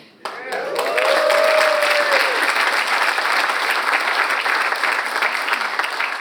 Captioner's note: audience cheers and applauds